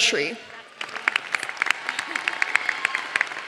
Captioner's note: applause